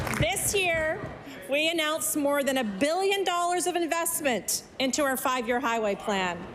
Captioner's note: applause